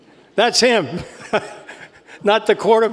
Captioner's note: laugh